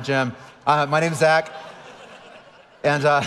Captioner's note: audience laughing